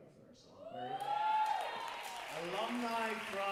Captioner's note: audience cheer and applaud